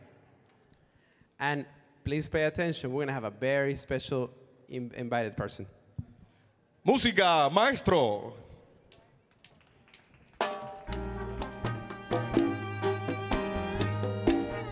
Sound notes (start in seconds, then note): 7.0 MC speaking in Spanish; 14.5 enchanting danzon music